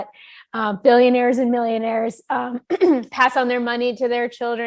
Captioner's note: clears throat